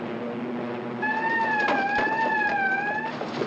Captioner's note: siren wailing